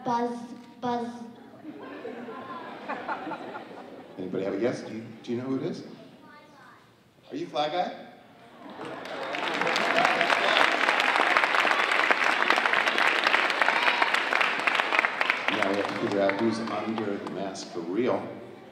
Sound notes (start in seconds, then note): 1.5 audience laughing; 8.8 audience applauding